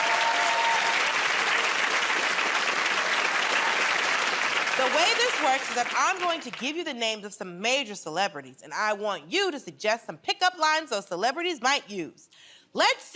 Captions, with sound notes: [ Cheering and applause ] The way this works is that I'm going to give you the names of some major celebrities and I want you to suggest some pickup lines those celebrities might use.